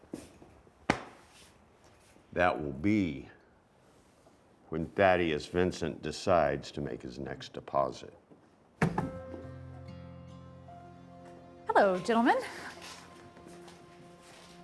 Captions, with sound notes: [hand thudding] That will be when Thaddeus Vincent decides to make his next deposit. [door knocking] Hello, gentlemen.